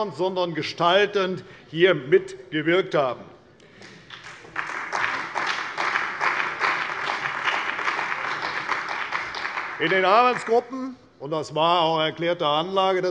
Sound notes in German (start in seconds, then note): 3.8 Beifall bei der CDU und dem BÜNDNIS 90/DIE GRÜNEN